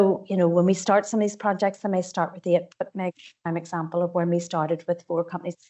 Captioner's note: audio distorts 53.39